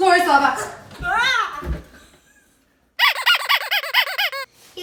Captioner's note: whimpers